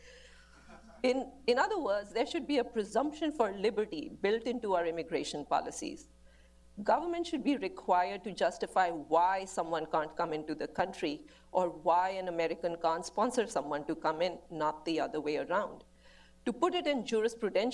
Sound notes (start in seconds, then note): 0.5 laughter